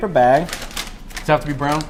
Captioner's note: paper crinkles